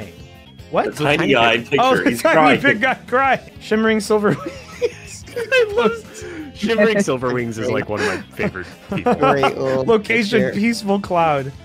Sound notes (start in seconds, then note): 4.2 laughs